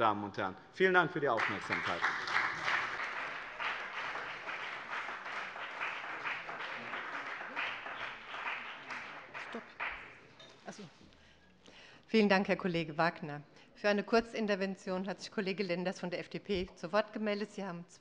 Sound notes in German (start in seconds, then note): 1.3 Beifall bei dem BÜNDNIS 90/DIE GRÜNEN und der CDU